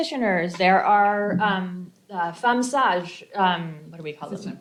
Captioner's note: non-english